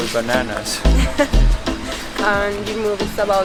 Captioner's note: laughs